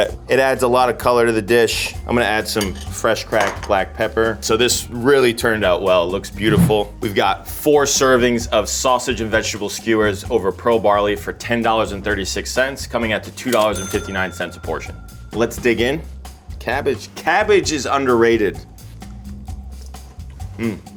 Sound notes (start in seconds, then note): 6.4 note swooshes; 13.4 cash register dings; 19.2 upbeat rhythmic music